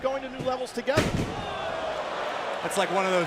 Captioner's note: crowd cheering